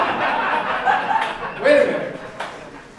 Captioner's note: audience laughing